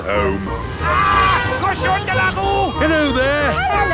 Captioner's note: yells